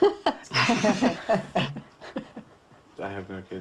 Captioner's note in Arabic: ضاحكا